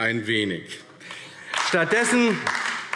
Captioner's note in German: Beifall AfD